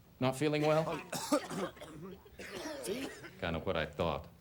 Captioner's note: students coughing